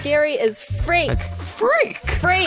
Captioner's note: high voice